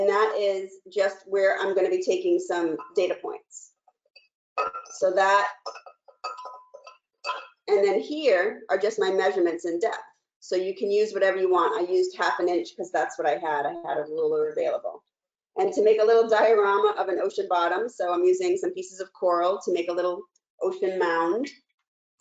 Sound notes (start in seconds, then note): 6.7 clanging